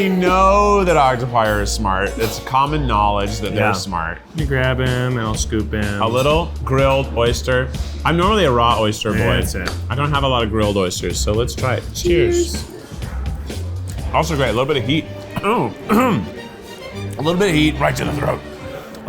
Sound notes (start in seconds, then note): 12.8 upbeat music; 15.2 clears throat